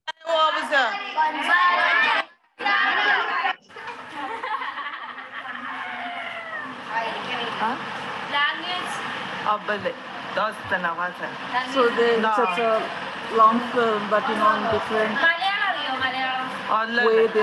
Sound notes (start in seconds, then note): 0.2 children speaking in foreign language; 3.7 girl laughing; 8.3 girl speaking in foreign language; 9.7 speaking gibberish